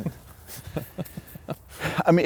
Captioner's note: laughs